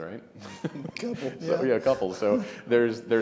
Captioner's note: both chuckle